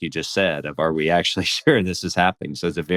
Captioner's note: laughs